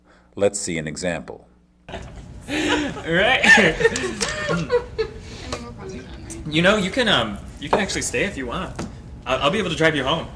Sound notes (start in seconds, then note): 2.4 laughter; 3.9 laughs